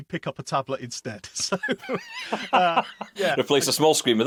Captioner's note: laughs